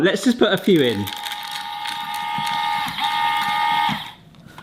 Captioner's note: machine whirring